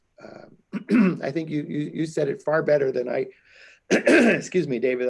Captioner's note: clears throat